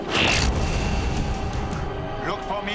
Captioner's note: zap